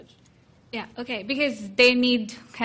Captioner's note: woman's Voice